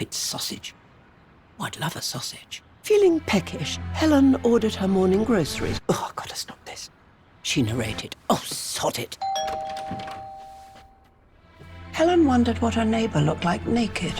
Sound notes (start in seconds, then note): 9.2 door bell rings